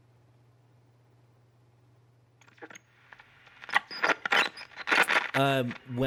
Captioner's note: static